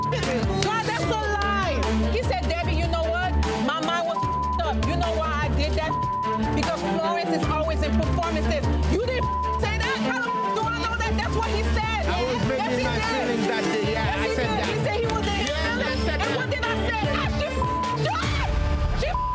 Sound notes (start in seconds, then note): 0.6 beep; 5.7 beep; 9.0 beep; 19.0 beep